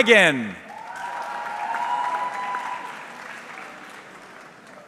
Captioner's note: audience clapping